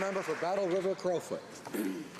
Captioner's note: some applause